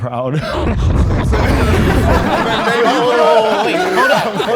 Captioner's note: group laughs